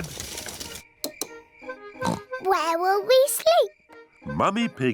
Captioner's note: oinks